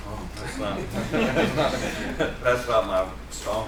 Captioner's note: laughter